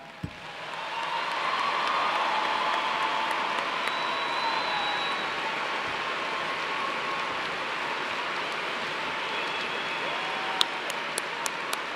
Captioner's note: cheers and applause